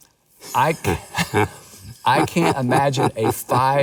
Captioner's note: laughs